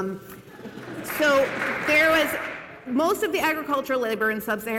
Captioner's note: cheers and applause